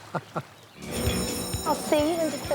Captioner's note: laughter; school bell